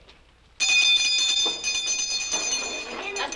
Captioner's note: bell rings